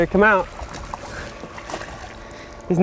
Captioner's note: splashing